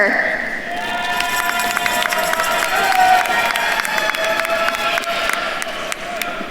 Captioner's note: attendees cheering and applauding